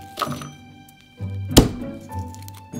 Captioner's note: knife smashing